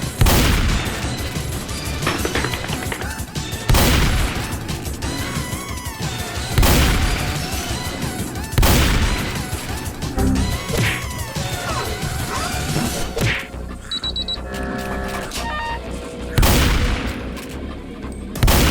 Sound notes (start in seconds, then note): 9.2 goofy machinery sounds; 10.2 windows error sound